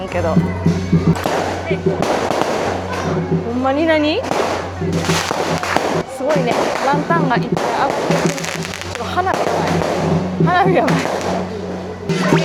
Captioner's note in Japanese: これは花火の音